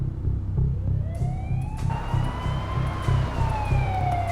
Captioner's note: siren blaring